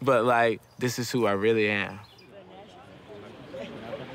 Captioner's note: group chatters